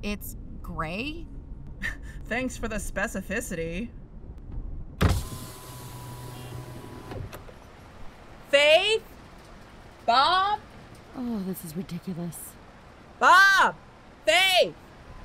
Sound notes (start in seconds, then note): 4.4 window rolls down, we hear traffic ambience; 7.0 yelling out window; 12.9 yelling